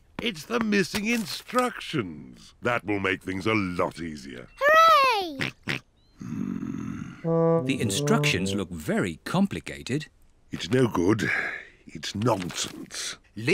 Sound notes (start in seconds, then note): 5.7 snorts